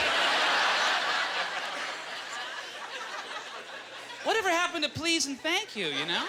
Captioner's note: audience laughter